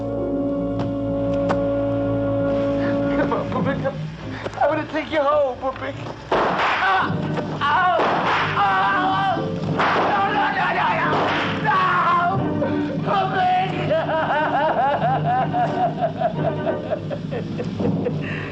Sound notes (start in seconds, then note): 2.4 Mario shouts; 2.4 gunshots; 11.6 sobbing